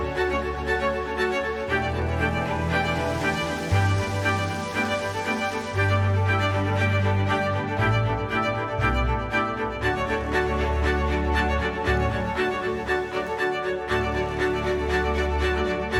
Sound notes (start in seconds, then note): 1.7 leaves rustling in wind